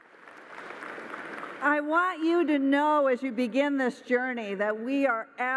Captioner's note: applause